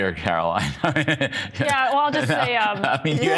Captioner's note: laughter